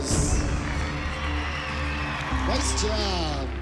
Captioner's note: cheering